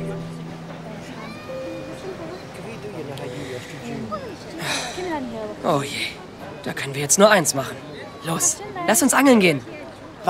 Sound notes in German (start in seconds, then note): 0.0 Nachdenkliche Musik; 4.4 Seufzen